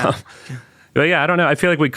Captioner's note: laughing